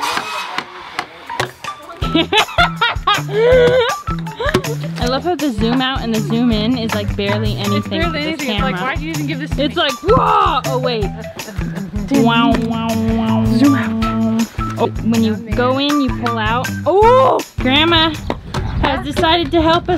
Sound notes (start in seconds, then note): 2.0 laughter